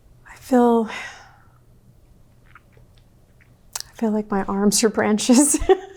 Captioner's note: laughs